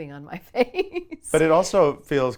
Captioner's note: laughs